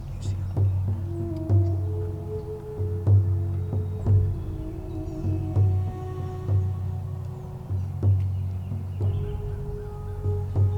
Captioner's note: whispering